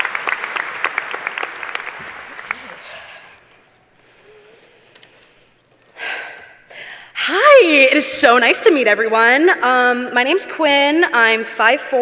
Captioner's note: applause